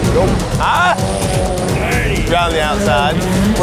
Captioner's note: yelling